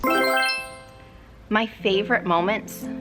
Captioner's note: bright chiming